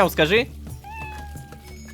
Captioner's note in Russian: Мяуканье